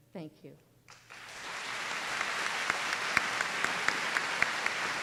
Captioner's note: applause